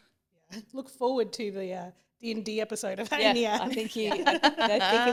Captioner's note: laughter